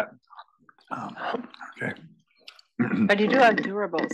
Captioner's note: cough